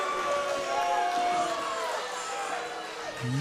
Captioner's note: cheers & boos